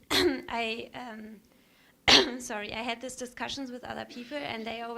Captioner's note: coughs